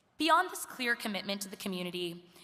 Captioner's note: none